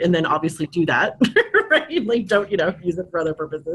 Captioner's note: laughs